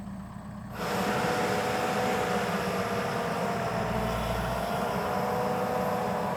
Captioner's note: intense truck whirring